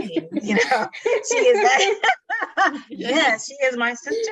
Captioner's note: laughing